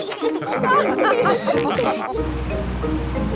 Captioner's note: all laugh